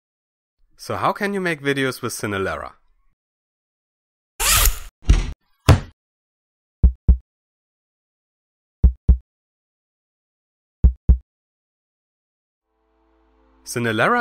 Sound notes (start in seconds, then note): 6.5 heartbeat